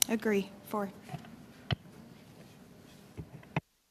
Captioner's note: speaking French